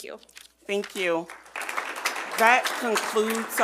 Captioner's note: attendees clap